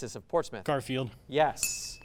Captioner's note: ding sound